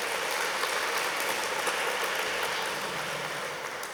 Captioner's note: applauses